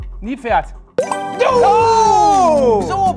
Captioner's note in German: Jubelrufe